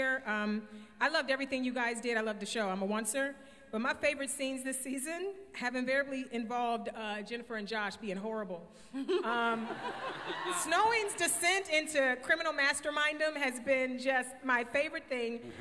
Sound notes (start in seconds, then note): 8.9 laughter